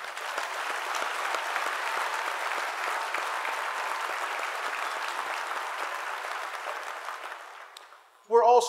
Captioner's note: applause